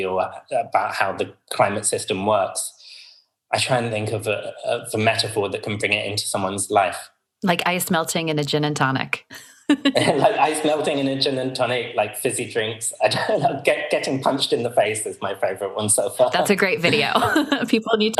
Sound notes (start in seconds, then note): 9.3 laughs